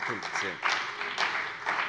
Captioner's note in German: Beifall bei dem BÜNDNIS 90/DIE GRÜNEN und der CDU